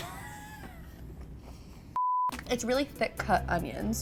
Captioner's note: laughing